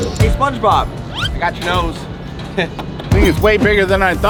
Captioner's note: clock ticking; intriguing upbeat music; nose wheezing; chuckles